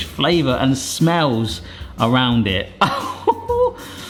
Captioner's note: laughs